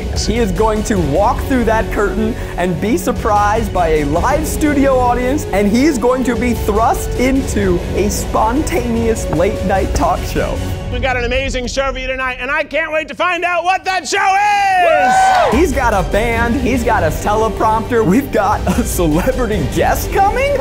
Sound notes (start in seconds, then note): 14.0 audience cheering